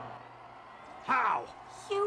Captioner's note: crowd cheering